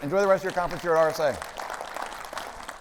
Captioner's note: audience applauding